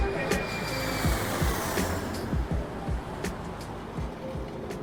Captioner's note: jet engine roars